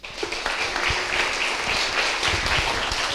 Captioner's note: applause